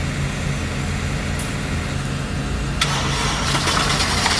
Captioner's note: machinery growling